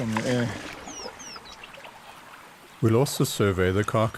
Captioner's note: bird chirping